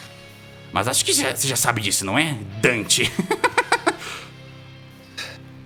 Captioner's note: laughs